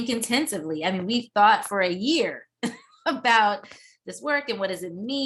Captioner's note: laughs